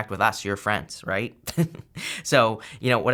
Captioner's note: laughs